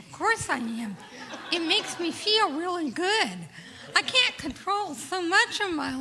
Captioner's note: laughter